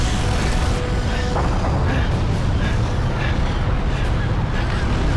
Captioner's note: heavily Breathing